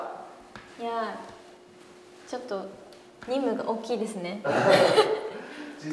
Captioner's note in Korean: 웃음